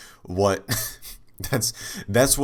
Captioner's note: chuckle